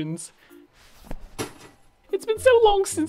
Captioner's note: crash